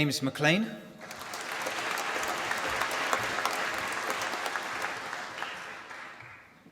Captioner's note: applause